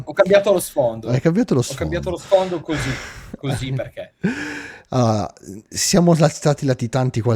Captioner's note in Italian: risate